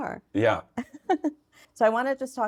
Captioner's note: laughing